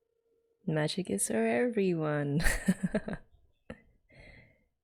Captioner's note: laughs